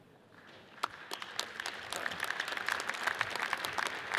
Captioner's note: audience applauds